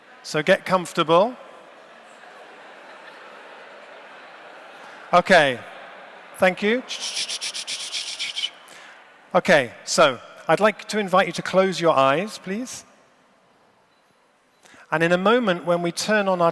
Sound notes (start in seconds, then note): 1.8 laughter; 4.4 indistinct chatter